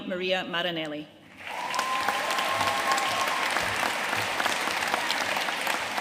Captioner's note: audience cheering and applauding